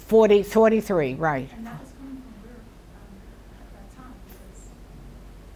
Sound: woman mumbles softly

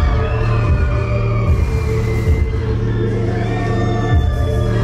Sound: crowd cheers

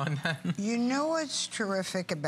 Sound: laughter

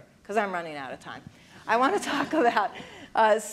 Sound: laughs

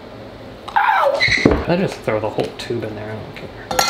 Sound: wails

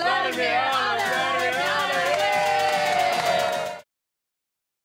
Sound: applause

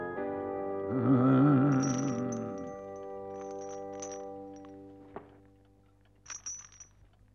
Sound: solemn music; Badger hums; trap clangs

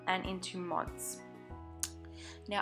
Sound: lip smack

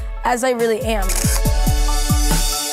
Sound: shutter clicking; upbeat music

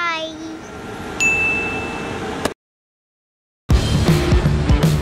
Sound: chime; fast-paced rock music

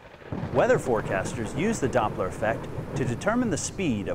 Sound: thunder

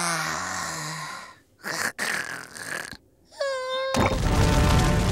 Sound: sighing; snoring

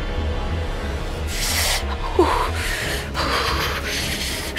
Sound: shivering

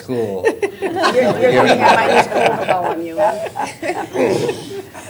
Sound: laughter

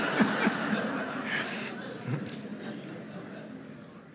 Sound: laughter

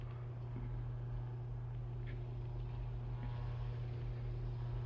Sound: tape recorder hums

